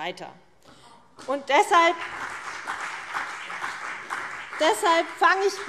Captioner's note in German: Beifall CDU und BÜNDNIS 90/DIE GRÜNEN